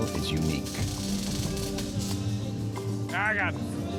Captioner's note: electrics sparking